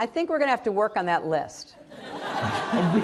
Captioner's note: laughter